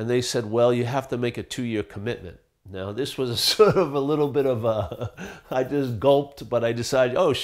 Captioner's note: laughing